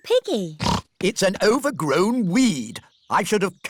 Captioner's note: snorts